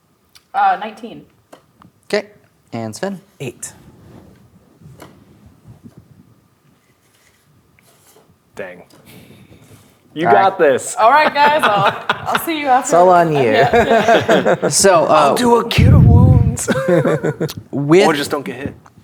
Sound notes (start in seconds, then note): 14.0 players laughing; 16.6 laughing